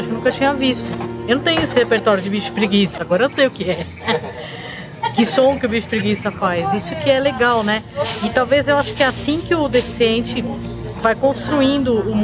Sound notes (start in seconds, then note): 3.6 laughs